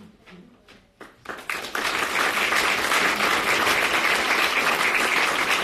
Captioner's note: audience applauding